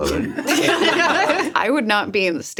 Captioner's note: laugh